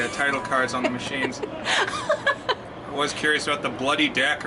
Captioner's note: laughs